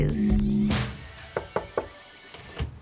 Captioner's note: knocks